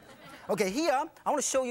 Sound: audience laughing

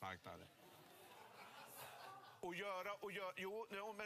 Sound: crowd starts laughing

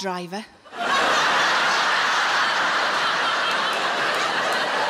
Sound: audience laughing

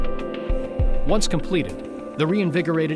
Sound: voiceover

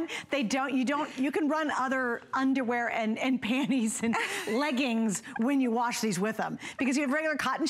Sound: laughter

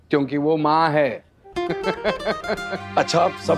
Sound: laughing

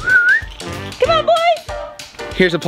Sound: whistles

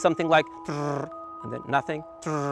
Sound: mouth buzzing

